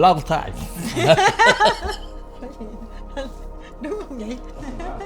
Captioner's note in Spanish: Risas